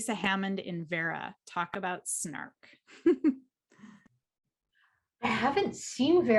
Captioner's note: giggles